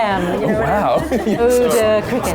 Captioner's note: laughing